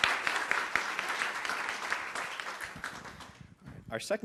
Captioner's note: applause